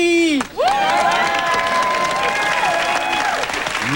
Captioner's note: cheers and applause